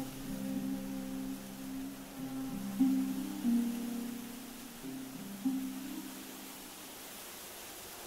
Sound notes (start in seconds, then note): 0.0 wind blowing grass